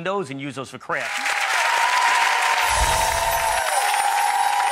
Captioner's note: applause